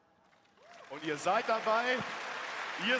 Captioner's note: applause